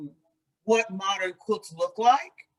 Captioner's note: none